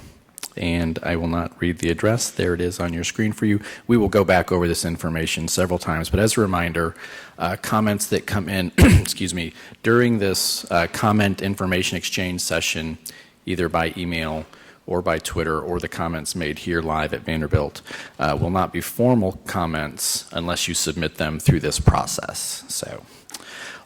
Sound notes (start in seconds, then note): 8.8 cough